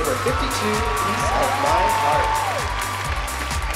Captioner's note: cheering, applause